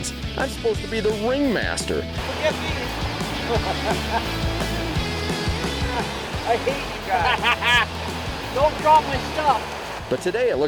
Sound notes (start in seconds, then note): 4.0 laughing; 5.6 laughs